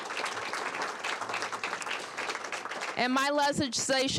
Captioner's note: applause